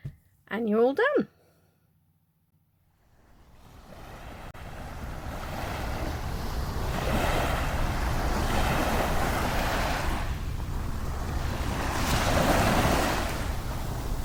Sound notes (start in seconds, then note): 3.0 waves crashing